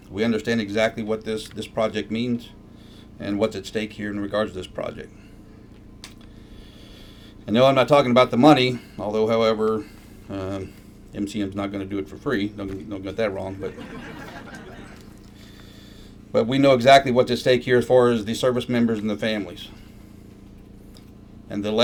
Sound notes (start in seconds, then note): 13.4 laughter